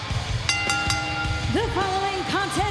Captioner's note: bell rings